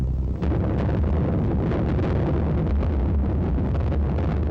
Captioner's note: bombs exploding